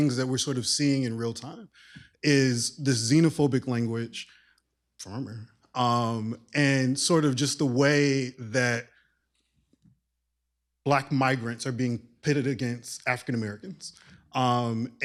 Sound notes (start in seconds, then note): 5.1 mutters